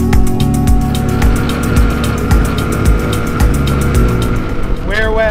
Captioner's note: tuk-tuk rumbling